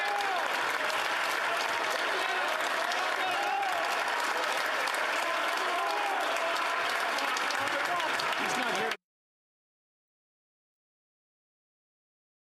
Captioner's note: applause